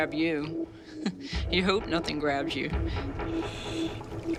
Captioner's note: chuckles